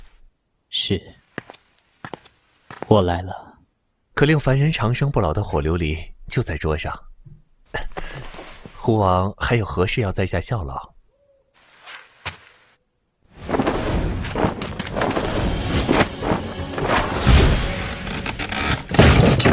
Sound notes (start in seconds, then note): 12.8 table moving; 16.5 sound of fabric